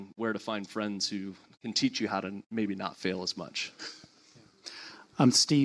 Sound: laughs

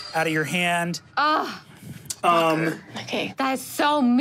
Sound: groans

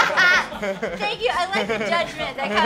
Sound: laughter

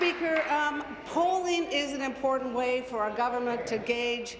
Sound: applause

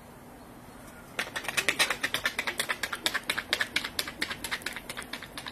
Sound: footsteps clattering

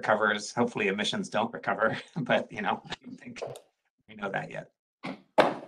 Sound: door opens

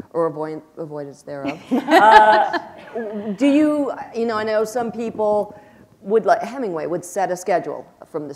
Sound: laughter

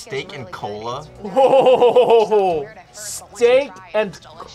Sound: laughs

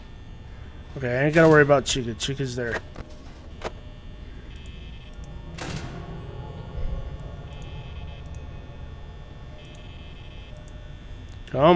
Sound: noises coming from in the kitchen

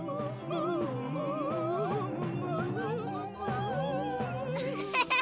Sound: laughing

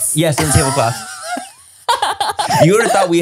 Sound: everyone laughs

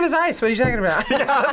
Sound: both laugh

